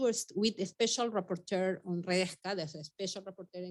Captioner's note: speaking Spanish